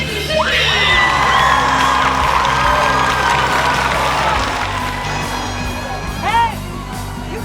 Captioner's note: cheering and clapping